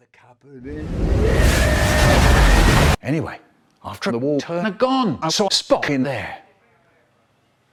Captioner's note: flooding